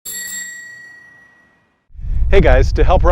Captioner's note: bicycle bell rings